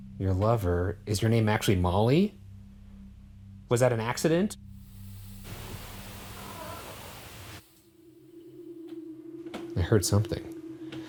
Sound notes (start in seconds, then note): 4.9 static